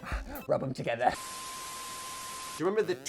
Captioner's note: static hissing